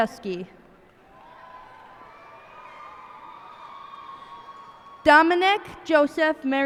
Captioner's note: cheers and applause